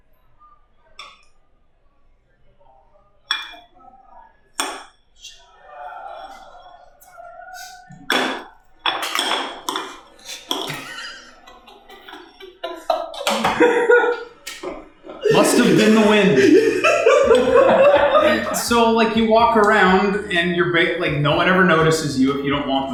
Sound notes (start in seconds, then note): 8.0 smack! smack!; 11.1 laughing; 16.9 laughter